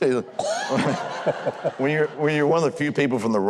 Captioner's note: Huckabee and audience laughs